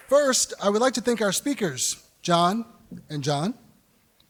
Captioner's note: applause